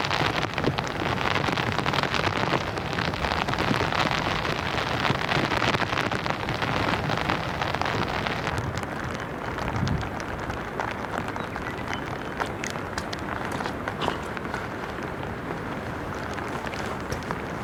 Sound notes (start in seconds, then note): 2.7 sound of heavy rain